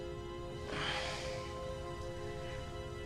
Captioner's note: groans weakly